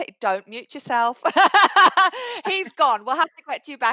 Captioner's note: laughter